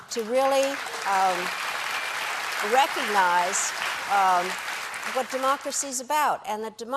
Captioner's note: applause